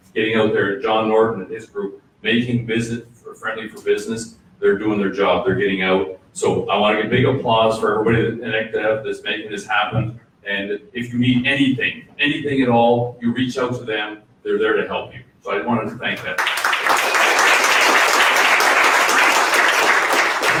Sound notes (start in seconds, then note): 16.3 audience applause